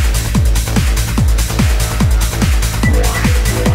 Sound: alien ship noise

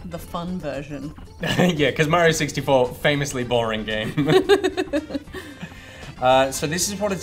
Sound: laughter

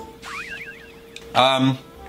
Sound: old timey whistle

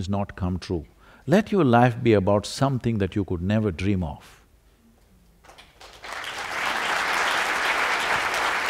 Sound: applause

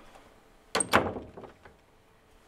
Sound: door shuts

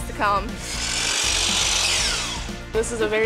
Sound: table saw cutting

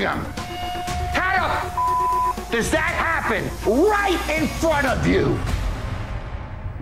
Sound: beep

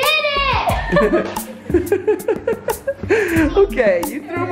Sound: laughing

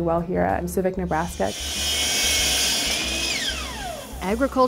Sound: saw buzzing

